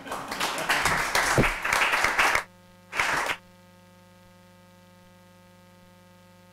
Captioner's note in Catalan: Aplaudiment